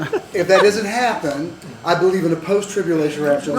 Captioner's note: laughter